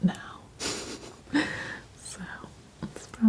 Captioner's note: laughing